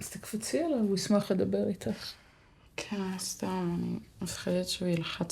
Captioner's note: speaking foreign language